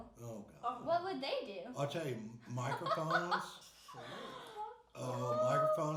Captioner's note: laughing